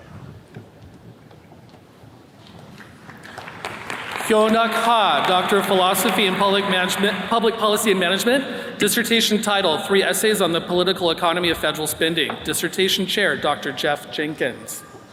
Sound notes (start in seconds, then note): 2.7 attendees clapping